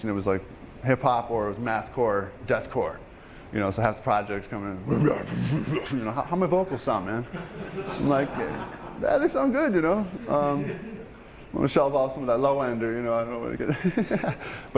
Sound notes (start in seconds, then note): 5.4 growling; 7.2 students laughing; 13.6 laughing